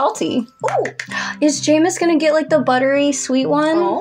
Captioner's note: gasp